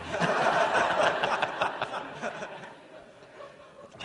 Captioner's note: laughter